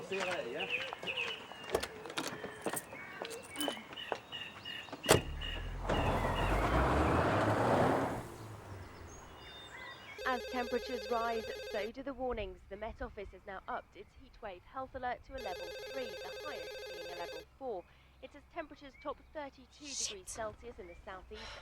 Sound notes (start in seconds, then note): 10.5 woman On Radio